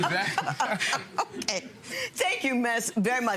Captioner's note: crowd laughing